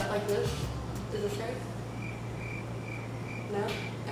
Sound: crickets chirping

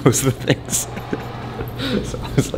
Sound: laughing

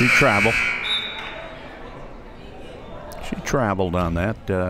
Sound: buzzer

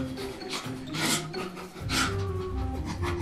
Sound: shivers

